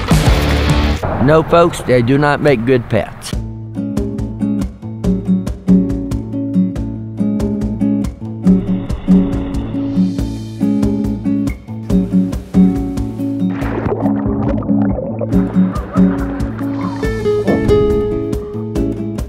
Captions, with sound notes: - No folks. They do not make good pets. (low energy music) (waves crashing) (water spluttering) (slow music)